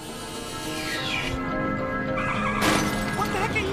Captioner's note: horn honks, tires screech, vehicles crashing